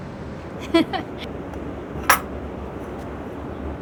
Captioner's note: chuckling